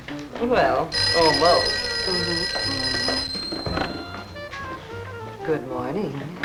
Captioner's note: phone ringing